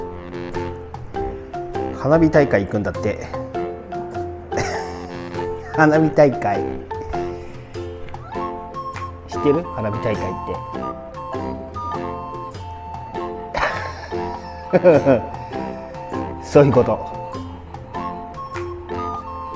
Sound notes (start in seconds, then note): 13.5 laughs